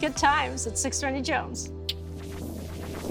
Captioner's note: clicks tongue